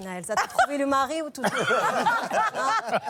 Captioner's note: laughter